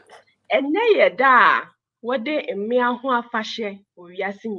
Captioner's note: speaking in Twi